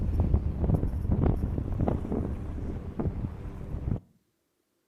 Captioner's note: graphic crackling